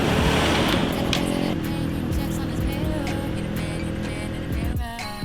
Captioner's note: engine roaring over singing; peaceful music